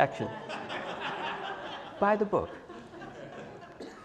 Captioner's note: laugh